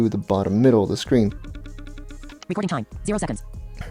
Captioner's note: quick pulsating sounds